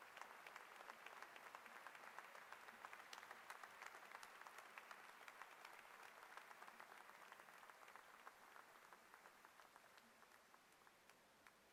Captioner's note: applause